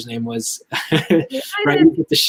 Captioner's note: laughs